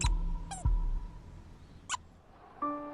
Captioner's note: toy squeaking